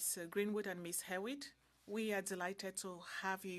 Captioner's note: speaking French